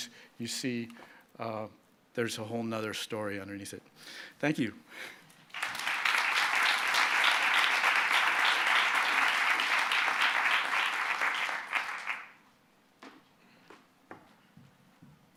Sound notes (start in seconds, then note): 5.4 applause